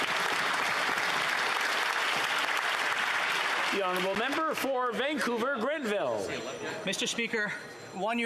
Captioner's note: some Applause; applause